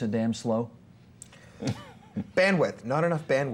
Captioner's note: chuckling